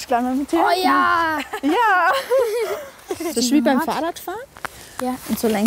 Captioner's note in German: lacht